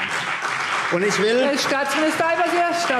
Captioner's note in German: Beifall CDU und BÜNDNIS 90/DIE GRÜNEN